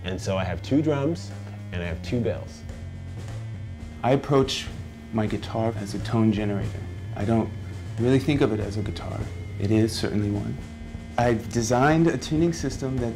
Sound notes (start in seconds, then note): 4.2 voiceover